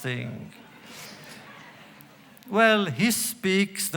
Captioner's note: laughter